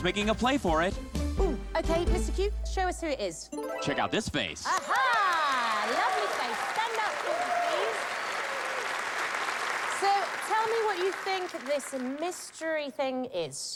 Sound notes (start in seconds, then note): 8.1 cheers and applause